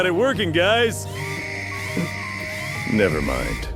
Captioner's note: sirens start blaring